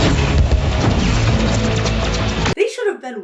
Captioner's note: lasers blasting